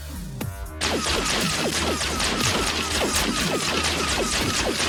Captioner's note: guns blasting